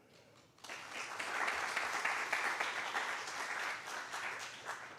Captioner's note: applause